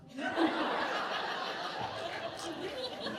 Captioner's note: laughter